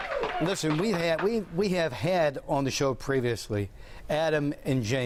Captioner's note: applause